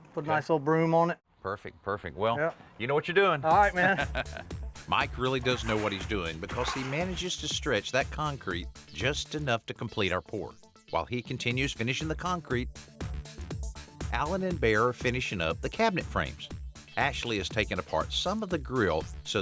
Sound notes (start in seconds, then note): 3.6 laughs